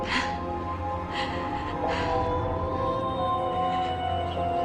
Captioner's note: silly sobbing